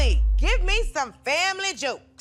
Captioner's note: none